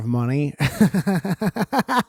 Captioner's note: laughs